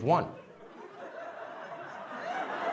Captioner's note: laughter